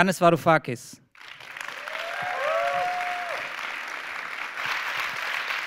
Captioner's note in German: Applaus